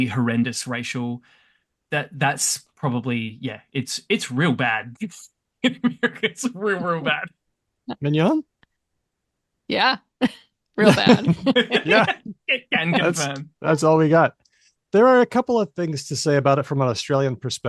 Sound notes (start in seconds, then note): 10.8 laughs